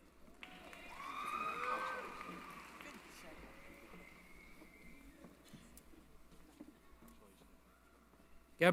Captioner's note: applause